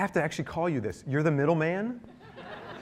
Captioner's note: laughter